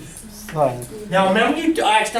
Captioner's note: voiceover